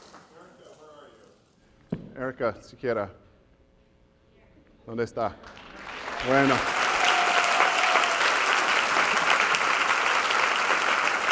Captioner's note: applause